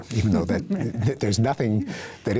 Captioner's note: chuckling